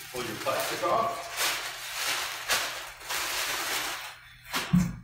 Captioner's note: plastic crinkling